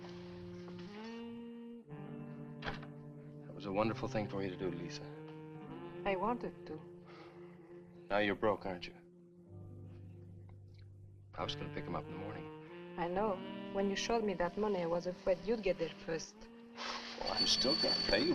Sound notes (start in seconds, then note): 2.6 door thuds